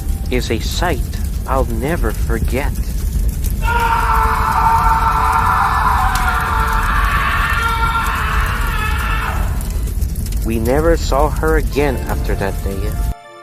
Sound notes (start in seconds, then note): 3.6 the red engine in half screaming in pain